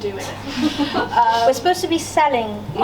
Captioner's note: laughter from audience